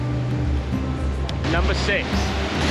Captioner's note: waterfall